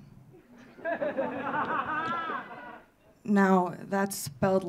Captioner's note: audience laughing